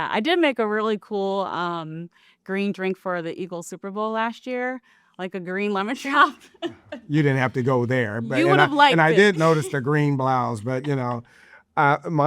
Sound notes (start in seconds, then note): 6.4 chuckles